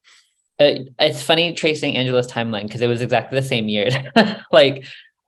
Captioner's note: laughs